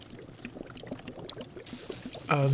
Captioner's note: soft sizzling sound